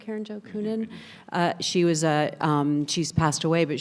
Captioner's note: panelist talks distantly